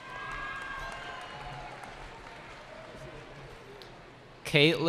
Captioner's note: cheering